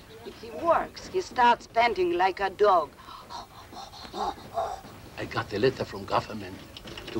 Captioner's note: panting